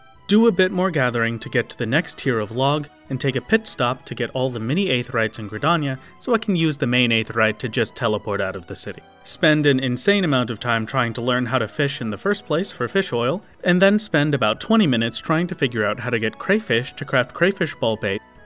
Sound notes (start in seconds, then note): none